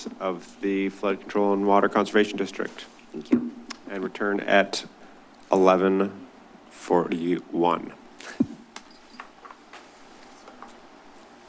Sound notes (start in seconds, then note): 8.2 shuffling sounds; 10.6 silence